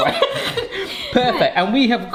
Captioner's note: both laughing